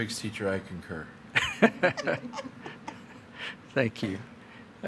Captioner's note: all laughing